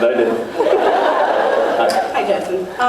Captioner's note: laughs